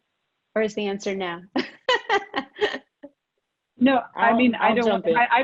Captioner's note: laughs